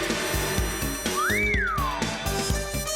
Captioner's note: whistles